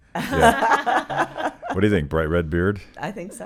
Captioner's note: laughing